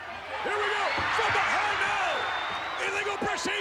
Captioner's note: referee whistling